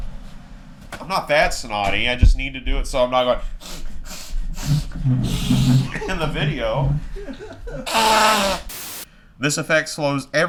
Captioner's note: sniffing